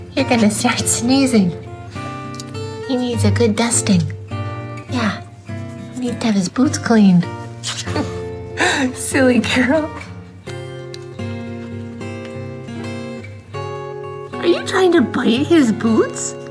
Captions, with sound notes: You're going to start sneezing! (sniff) He needs a good dusting! Yeah! He needs to have his boots cleaned! (laughing) (sniff) (laughing) Silly girl! Are you trying to bite his boots?